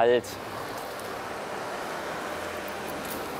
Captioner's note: traffic noise